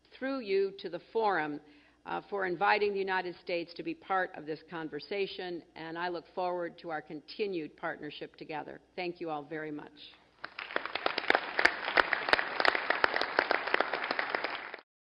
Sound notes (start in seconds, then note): 13.7 applause